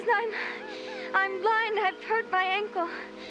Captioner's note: humming